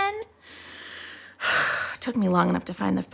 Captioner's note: exhales sharply